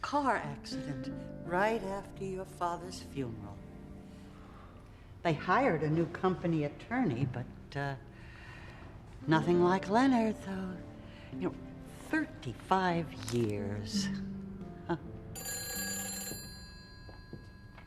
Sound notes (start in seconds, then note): 15.4 ringing